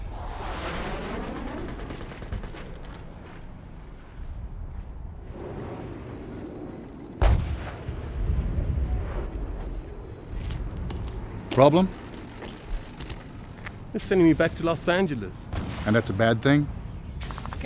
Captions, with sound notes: (expLosions) (gun fire) - Problem? - They're sending me back to Los Angeles - And that's a bad thing?